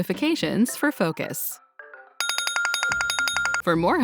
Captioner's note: ringing; ringing stops